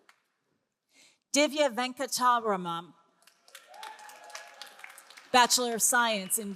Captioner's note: all applauding